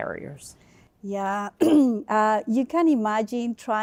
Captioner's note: clears throat